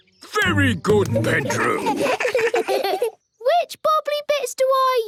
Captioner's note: children giggle